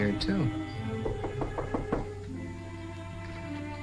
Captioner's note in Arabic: طرق الباب